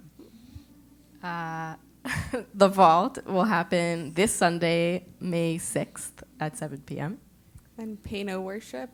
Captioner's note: laugh